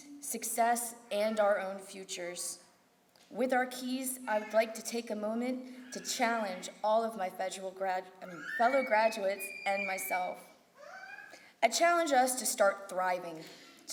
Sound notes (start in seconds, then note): none